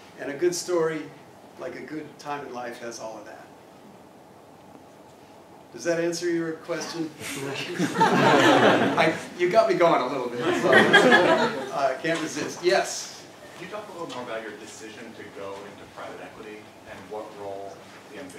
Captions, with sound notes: And a good story, like a good time in life, has all of that. Does that answer your question? [LAUGH] I, you got me going a little bit, so I can't resist. Yes. >> Can you talk a little more about your decision to go into private equity, and